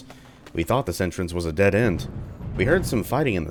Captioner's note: thunder